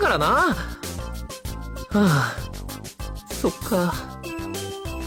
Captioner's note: sigh